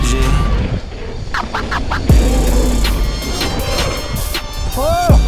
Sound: record scratch

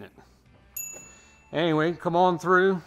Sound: dinging

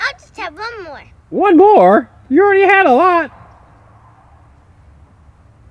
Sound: voiceover

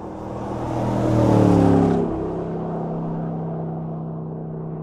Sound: engine revving

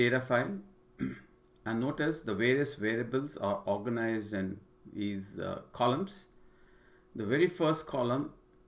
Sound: cough

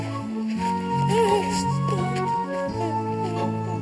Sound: whimpers

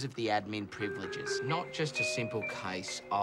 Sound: chime plays over PA

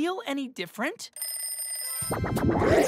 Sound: rings bell

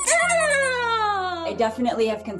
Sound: toy squeaking

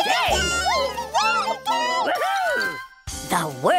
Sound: cheers

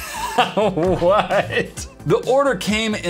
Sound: laughs

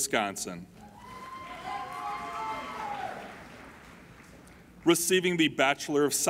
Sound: applauding and cheering

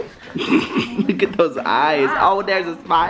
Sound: laughs

